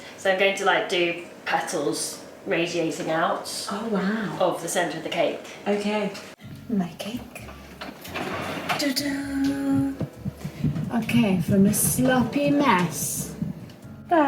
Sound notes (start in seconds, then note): none